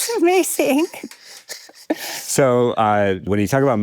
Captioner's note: all laughing